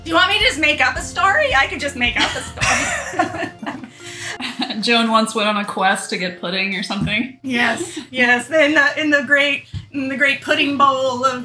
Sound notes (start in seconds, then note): 2.2 soft laughs